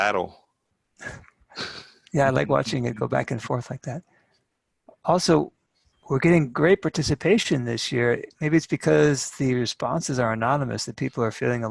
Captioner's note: chuckle